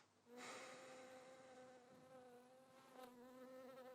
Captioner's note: sighs